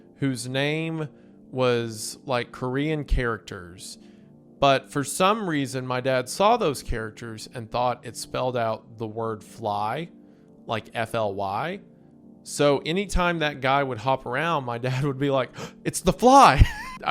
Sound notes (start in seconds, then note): 15.6 gasps